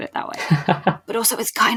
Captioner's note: laughs